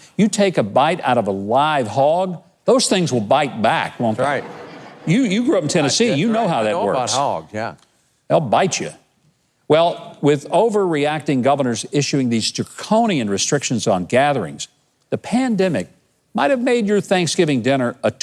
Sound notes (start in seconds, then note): 4.6 audience laughing